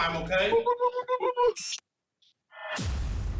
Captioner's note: hooting